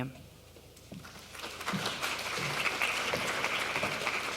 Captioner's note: applause